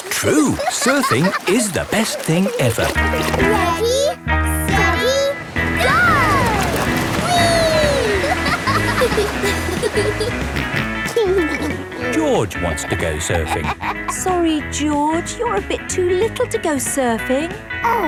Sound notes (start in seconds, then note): 0.0 snorts; 8.6 laughing; 10.9 snorts and giggles